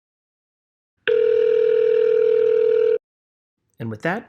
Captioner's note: call ring-back tone